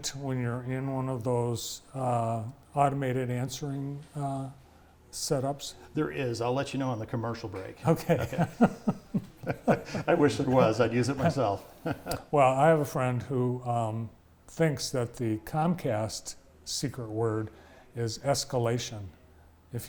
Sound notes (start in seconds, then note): 7.9 both laughing